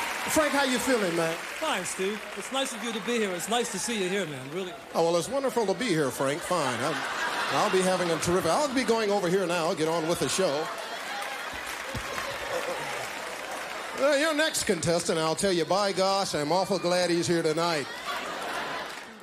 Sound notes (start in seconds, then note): 0.0 audience applauding; 6.7 audience laughing; 10.7 audience laughing; 17.8 audience laughing